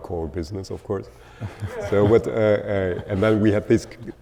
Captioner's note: audience laughing